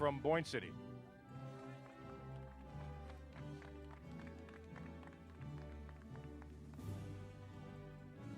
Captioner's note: applause